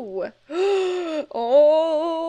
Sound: gasps

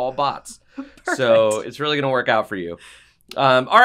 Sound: laugh

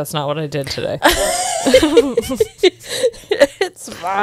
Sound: panel laughing

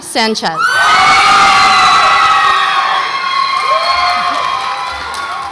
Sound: audience applauds and cheers

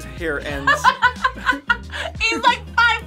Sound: laughs

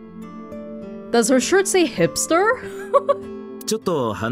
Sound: chuckles

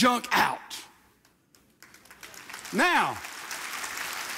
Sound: audience applauds

